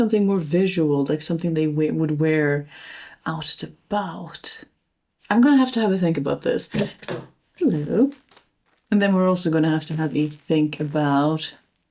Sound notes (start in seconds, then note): 6.8 thud